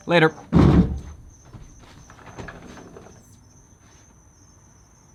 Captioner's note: crickets chirping